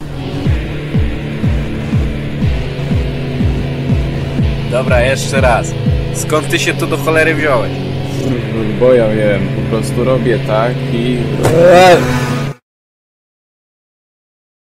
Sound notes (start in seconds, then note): 11.4 bam